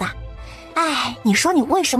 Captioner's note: sigh